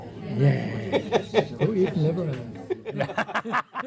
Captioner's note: laughing